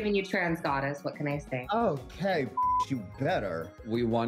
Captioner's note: beep